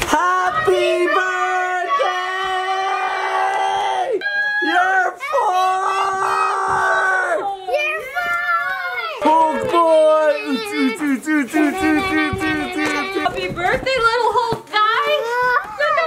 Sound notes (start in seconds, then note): 9.4 overlapping cheering